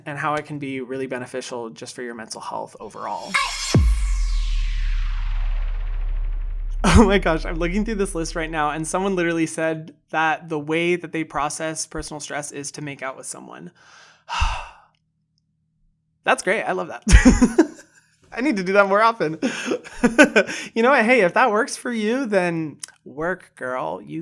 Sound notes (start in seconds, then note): 14.2 sighs; 17.0 laughs